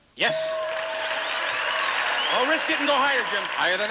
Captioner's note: audience applauding